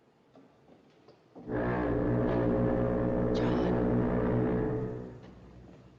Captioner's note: foghorn Blows